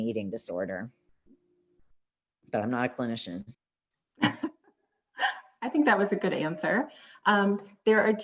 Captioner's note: laughter